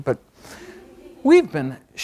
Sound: audience laughs

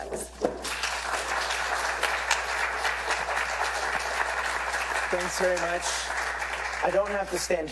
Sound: applause

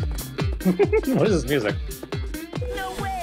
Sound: giggle

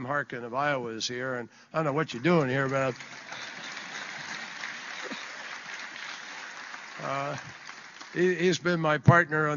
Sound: applause

